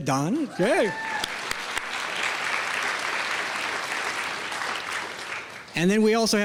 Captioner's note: clapping